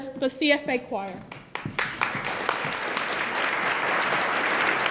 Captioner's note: attendees applaud